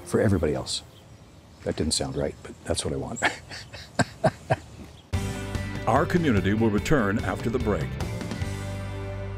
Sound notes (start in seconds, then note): 3.2 laughs